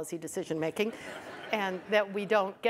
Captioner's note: audience laughs